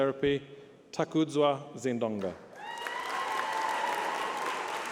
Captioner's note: applause